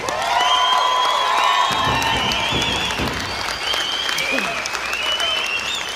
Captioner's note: audience cheering and applauding